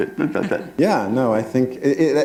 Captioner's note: chuckle